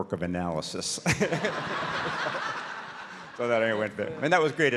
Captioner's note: audience laughs